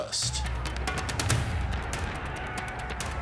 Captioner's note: distant commotion